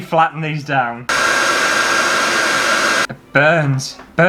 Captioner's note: hairdryer